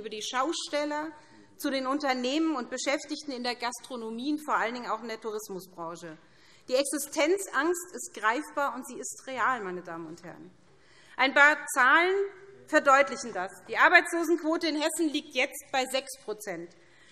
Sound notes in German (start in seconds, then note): none